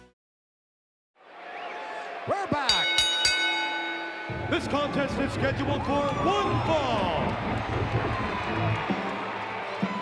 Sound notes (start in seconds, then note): 2.6 bell ringing; 7.8 audience cheering; 7.9 upbeat music